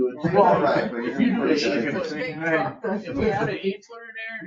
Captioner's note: members laugh